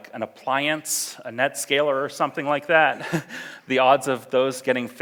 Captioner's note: laughs